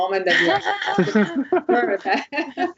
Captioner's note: laughter